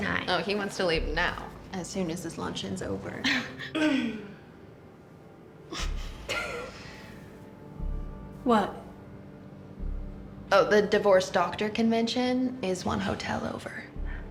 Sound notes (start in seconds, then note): 3.9 clears throat; 5.4 women laughing